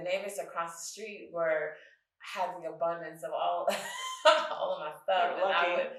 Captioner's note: chuckles